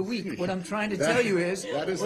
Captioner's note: laughter